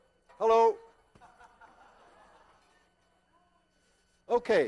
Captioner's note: class laughs